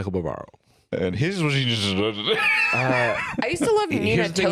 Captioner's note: slurring; laughs